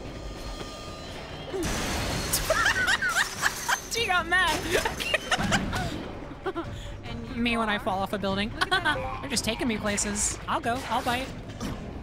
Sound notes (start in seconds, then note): 1.6 explosion; 2.4 laughs; 6.3 Black Cat moans, laughs